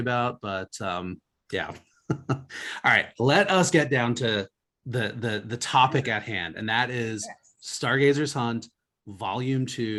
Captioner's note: laughs